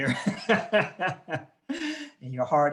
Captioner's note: laughing